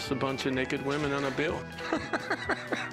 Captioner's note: laughs